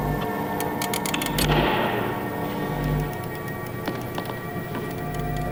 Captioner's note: lever clicking